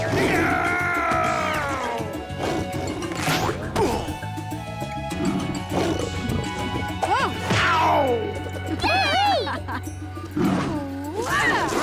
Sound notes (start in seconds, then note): 5.1 snarling angrily; 8.6 cheering and laughing